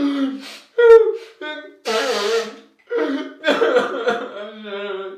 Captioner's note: man blowing nose